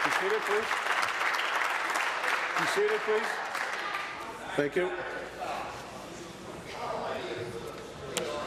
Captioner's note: applause